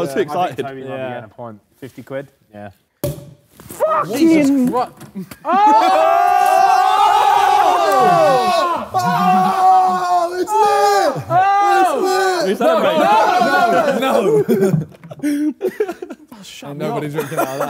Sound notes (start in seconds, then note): 3.0 bottle pops; 6.4 Sidemen scream; 15.1 laughs